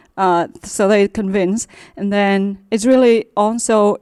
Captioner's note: none